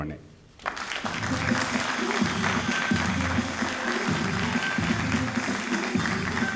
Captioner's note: all applauding